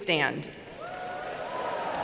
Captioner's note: cheering; applause